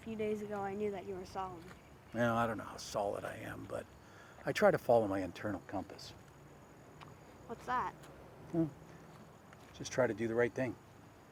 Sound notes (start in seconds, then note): none